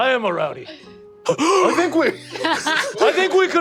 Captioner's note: gasps dramatically